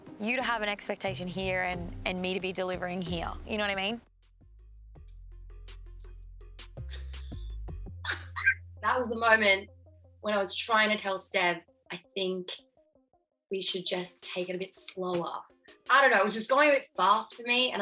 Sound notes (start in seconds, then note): 8.0 laughs